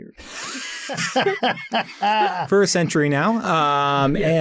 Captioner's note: laughs